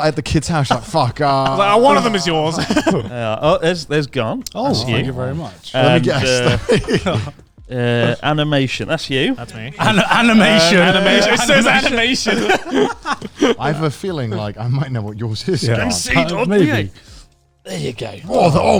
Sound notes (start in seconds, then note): 0.6 chuckles; 13.0 chuckling